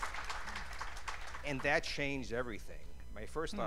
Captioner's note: cheers and applause